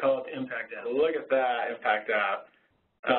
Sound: voiceover

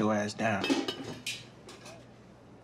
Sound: lid clatters

